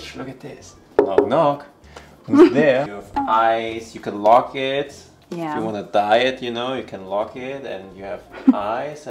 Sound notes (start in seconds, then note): 1.0 knocking; 2.3 laughing; 8.3 chuckles